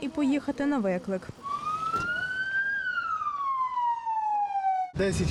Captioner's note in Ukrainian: Чути звук сирени швидкої